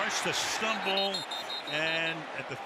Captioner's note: whistle